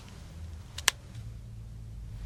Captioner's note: cell phone closes